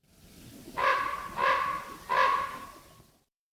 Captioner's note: crows calling